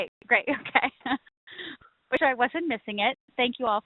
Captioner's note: laughs